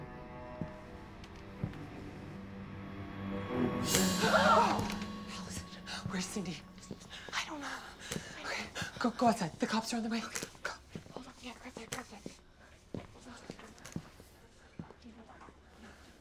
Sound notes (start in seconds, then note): 3.9 Meg and Allison gasp; 5.2 whispering